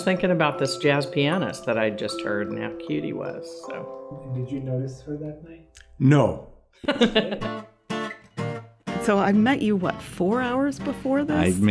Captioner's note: laugh